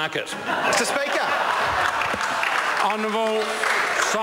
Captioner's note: members laugh